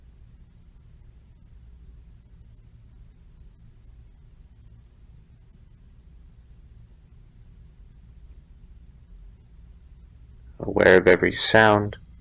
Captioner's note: silence